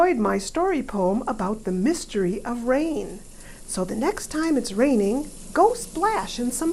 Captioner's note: rain sounds